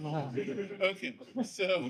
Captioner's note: audience laughs